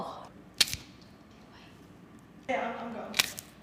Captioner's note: celery stalk snaps